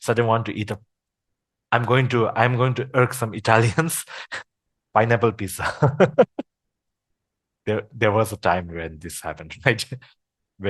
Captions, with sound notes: Sudden want to eat a- I'm going to irk some Italians (laughters), pineapple pizza. There was a time when this happened, right?